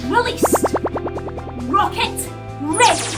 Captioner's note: warble